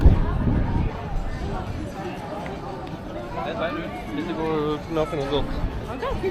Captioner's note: people chattering